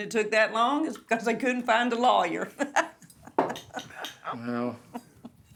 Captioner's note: laughing